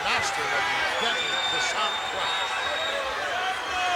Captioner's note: crowd chattering